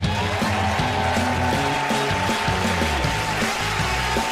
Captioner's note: cheers and applause